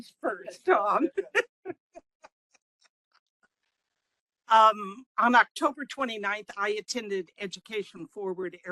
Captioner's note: laughing